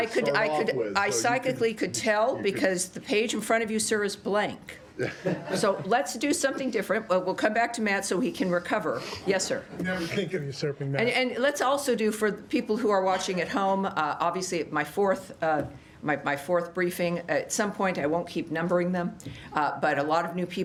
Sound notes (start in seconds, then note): 5.0 laughter